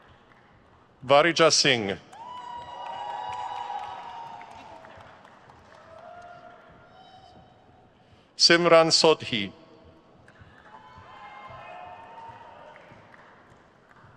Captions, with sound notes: Varija Singh. (crowd cheers) Simran Sodhi. (crowd cheers)